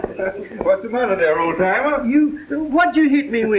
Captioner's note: chuckling